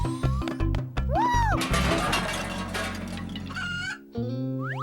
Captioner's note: crash